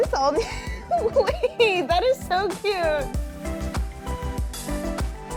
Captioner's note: laughing